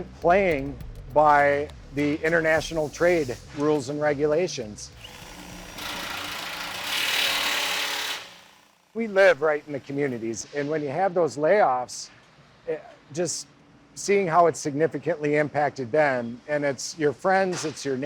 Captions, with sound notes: that isn't playing by the international trade rules and regulations. (drill buzzing) We live right in the communities. And when you have those layoffs, just seeing how it's significantly impacted them,